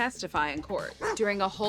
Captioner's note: dog barking